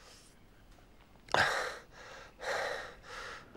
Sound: gasping

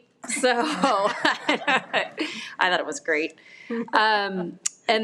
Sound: everyone laughs

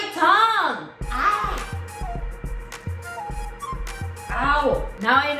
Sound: painful sounds

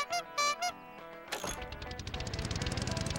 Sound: horn honking

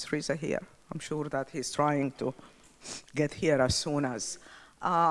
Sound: sniffles

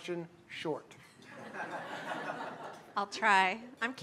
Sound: laughter

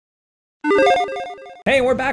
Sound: electronic jingling

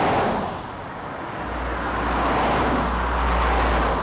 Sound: vehicles passing

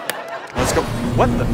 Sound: thunder and magical twinkling

